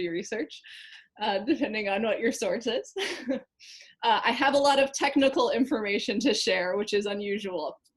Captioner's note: laughing